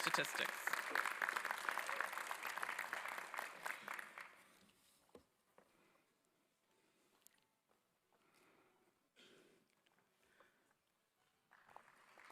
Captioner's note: applause